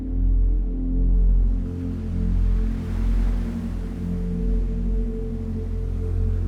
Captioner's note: calming ambient music; waves crashing